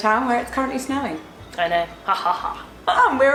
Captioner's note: evil laugh